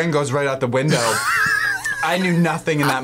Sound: laughs

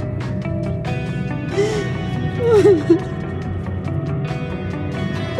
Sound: crying

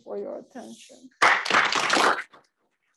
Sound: audience applauding

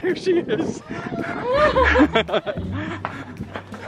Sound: laughing

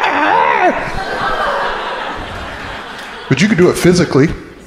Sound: crowd laughing

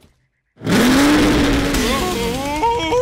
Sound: revving

